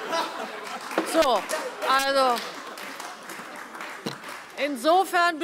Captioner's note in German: Allgemeine Heiterkeit und Beifall